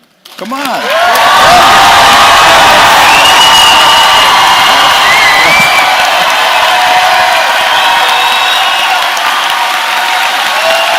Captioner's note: cheering loudly